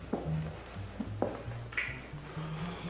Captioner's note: kissing